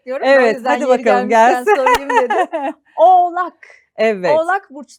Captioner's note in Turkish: kahkaha